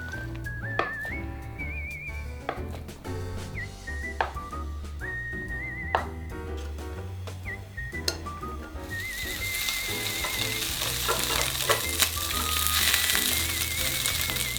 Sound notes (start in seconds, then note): 9.2 SFX: Sizzle